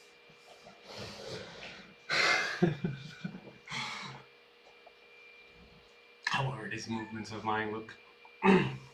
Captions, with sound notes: [embarrassed laughter] How do these movements of mine look?